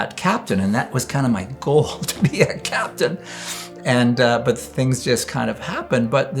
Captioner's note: rires